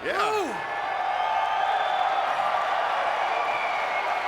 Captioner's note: audience cheering